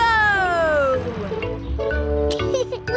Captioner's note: laughs